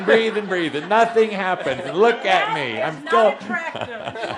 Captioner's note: laughter